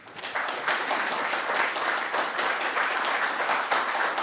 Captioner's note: audience applauding